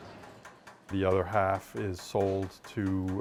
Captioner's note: machinery tapping